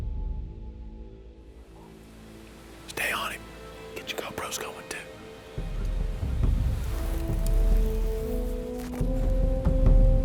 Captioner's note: whispering